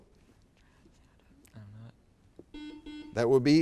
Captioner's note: whispering; buzzer beeps